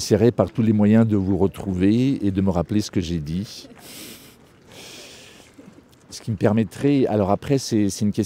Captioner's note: laughs